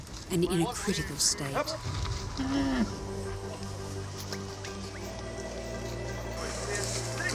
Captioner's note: rhino grunts